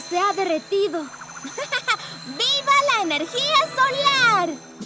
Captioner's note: giggling